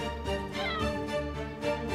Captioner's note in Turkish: Hayvan Sesi